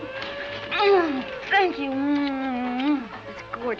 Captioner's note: smooching